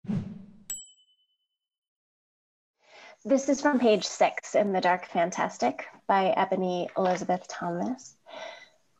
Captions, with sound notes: (whoosh) (bell dings) - This is from page six in "The Dark Fantastic" by Ebony Elizabeth Thomas.